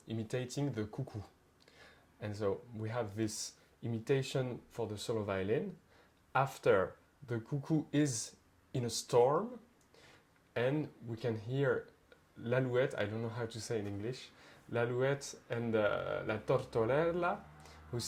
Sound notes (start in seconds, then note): 11.8 speaks French; 15.0 speaks French; 16.6 speaks Italian